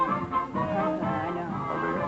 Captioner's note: jaunty music; whispering